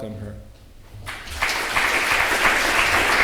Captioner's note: applause